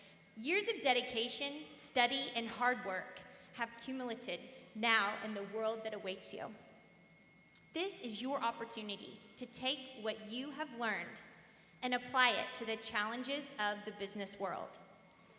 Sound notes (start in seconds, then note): none